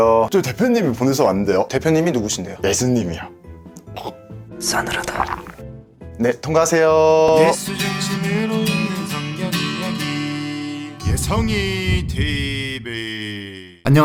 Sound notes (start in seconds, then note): 4.6 gulp